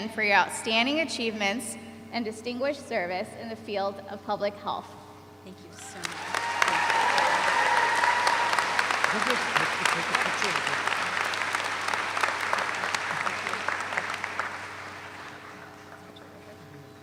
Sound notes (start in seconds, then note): 7.2 audience applauds; 11.6 audience applauds